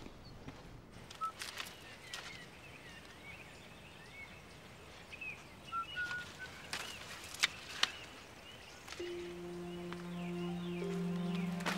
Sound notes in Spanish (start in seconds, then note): 1.4 silbido; 9.0 música espeluznante